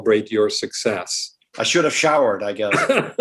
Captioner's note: laughter